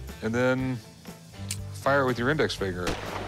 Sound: simulated gunshot

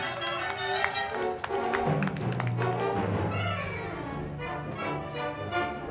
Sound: crowd clapping; band music

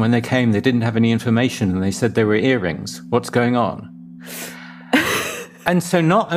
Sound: laughs

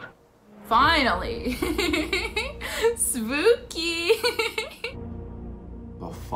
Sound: giggles

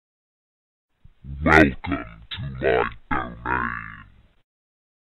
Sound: sound of demon

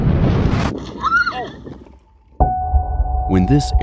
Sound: screaming

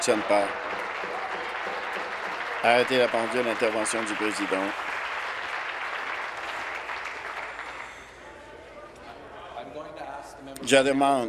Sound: applause

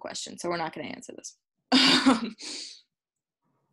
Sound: laughs

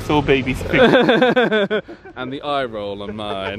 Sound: friends laugh

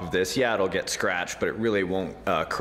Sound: none

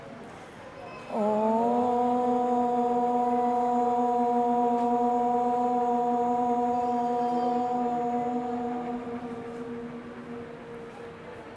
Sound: chanting

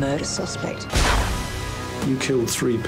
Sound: gun booming

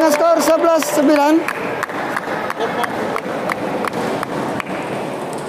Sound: applause

